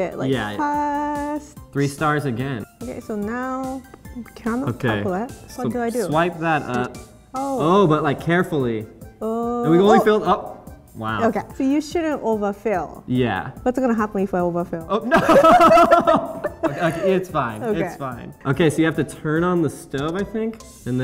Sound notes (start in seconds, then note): 15.0 laughter